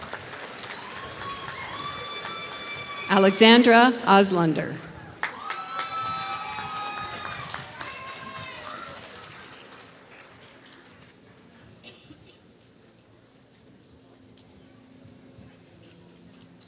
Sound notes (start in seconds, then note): 5.0 applause